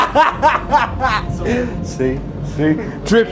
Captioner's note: laughing